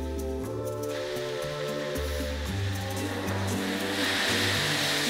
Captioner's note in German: Wellen brechen